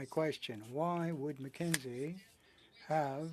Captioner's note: speaking French